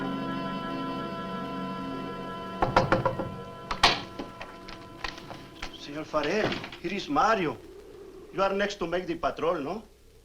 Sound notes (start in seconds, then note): 2.6 knocks on door; 3.7 door opens